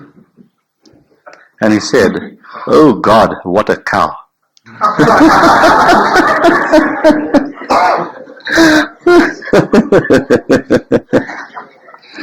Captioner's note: laughs